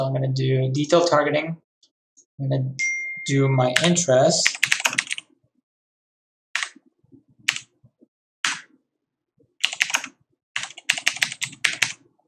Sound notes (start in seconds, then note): 2.8 bell dings; 4.4 keyboard clattering